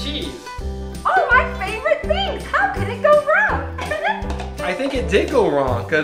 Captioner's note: laughing